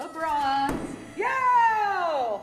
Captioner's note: axe hitting wood